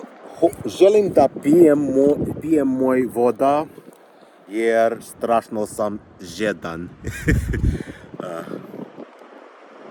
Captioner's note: laughter